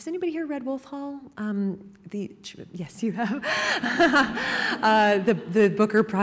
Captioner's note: laughing